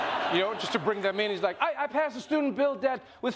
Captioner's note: imitating biden